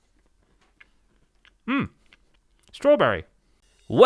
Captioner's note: chewing